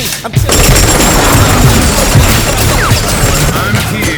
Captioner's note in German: schüsse ertönen